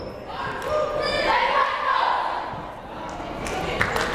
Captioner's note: players chanting